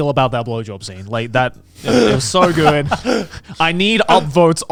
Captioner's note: laughing